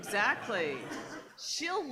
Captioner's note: laughing